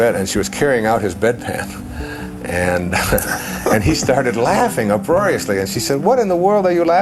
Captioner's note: chuckle